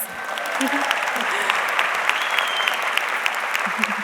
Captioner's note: audience clapping